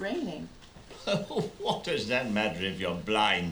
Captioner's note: laughing